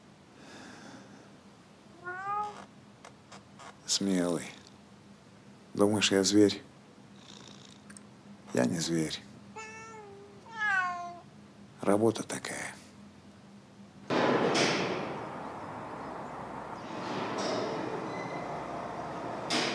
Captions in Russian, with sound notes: - Смелый... - Думаешь, я зверь? - Я не зверь... [Кошачье мяуканье] - Работа такая...